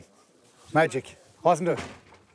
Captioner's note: voiceover